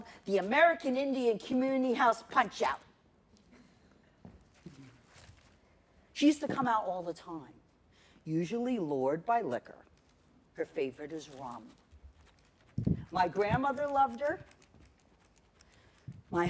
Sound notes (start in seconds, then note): none